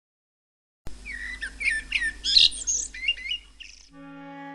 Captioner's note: bird chirping; whimsical children's music